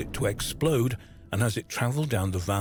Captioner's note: explosion banging